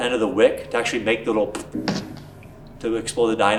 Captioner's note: popping